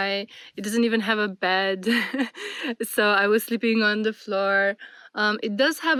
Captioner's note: laughter and gasps